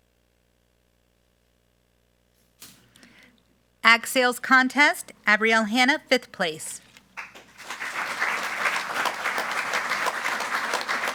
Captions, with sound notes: Ag Sales Contest, Abrielle Hannah, fifth place. (group applauding)